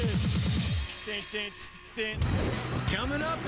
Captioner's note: imitates drumbeat